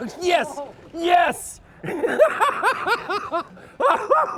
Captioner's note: laughing